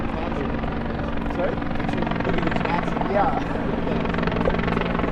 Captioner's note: police officers chattering